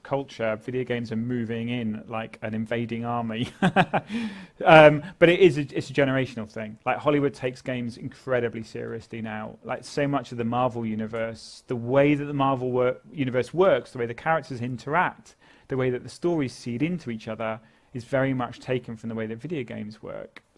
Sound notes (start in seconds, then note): 3.5 laugh